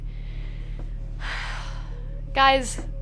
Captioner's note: sigh